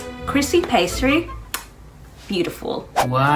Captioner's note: kissing